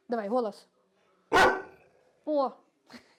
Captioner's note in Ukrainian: пес гавкає